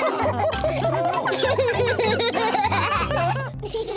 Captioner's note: all laughing; laughs; laughter